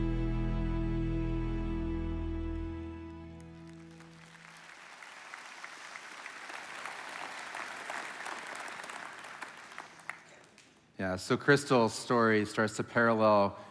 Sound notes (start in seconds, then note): 3.0 congregation applauding